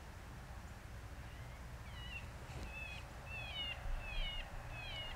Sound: animal calling

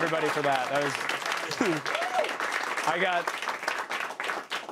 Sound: cheers and applause

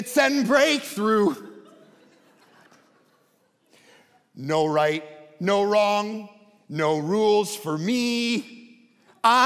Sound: congregation laughing

